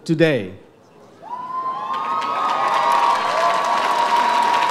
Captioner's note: audience cheers